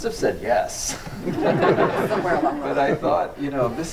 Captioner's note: audience laughs